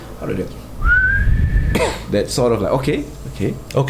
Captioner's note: bersiul; whistles